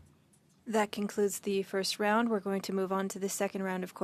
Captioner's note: speaking French